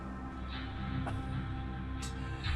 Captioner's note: scoffs